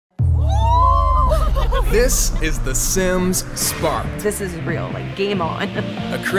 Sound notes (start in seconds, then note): 0.3 shrieking